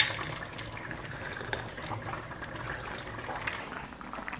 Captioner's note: drinking